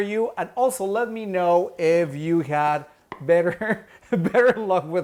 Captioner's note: chuckles